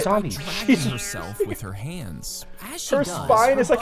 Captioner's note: vocalizing and laughing